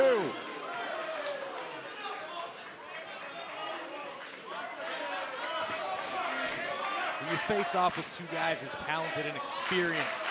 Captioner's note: crowd chatter